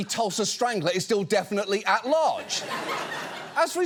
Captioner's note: audience laughs